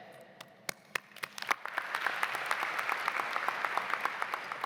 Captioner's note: audience clapping